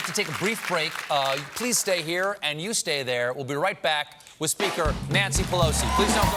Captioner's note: applause